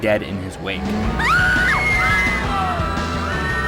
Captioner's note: people screaming